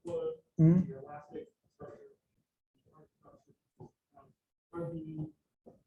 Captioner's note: speaker's voice is muffled